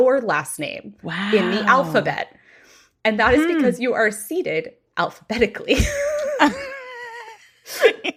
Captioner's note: laughing